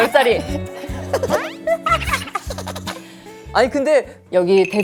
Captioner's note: hahaha / Hehe